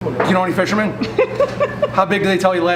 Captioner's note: woman laughing